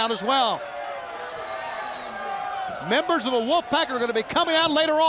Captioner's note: crowd chatter